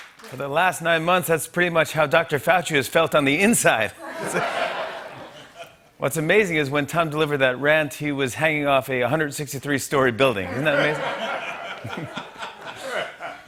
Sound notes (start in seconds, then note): 4.0 laughter; 10.4 laughter